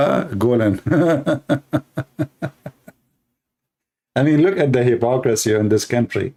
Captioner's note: Ketawa